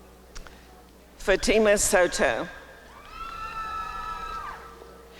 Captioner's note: applause and cheering